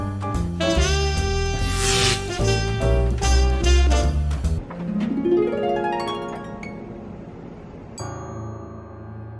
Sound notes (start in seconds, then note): 0.0 smooth jazz playing; 1.2 electrical wiring buzzing; 2.8 smooth jazz playing